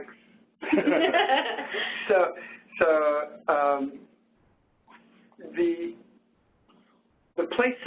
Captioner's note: laughter